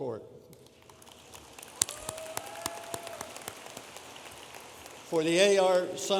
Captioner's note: audience applauding